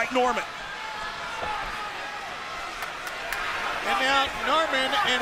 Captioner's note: crowd cheering